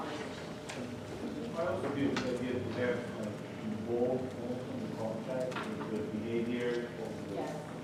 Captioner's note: low talking